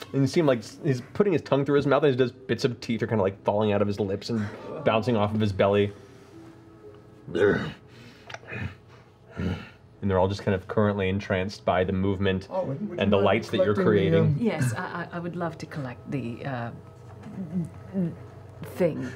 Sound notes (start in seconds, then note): 7.3 grunts